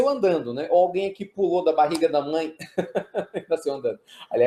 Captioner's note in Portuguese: risos